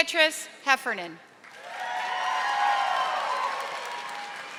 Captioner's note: audience applauding